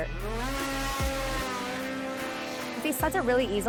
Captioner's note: snowmobiles revving